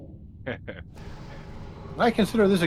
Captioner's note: laughs